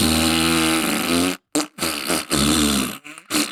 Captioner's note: mouth Fart noises; mouth fart noises continue; mouth fart noises, despite our pleading, do not stop